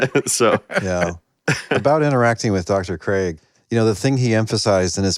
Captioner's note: laughter